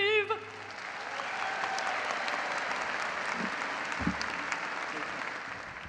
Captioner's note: audience cheering and applauding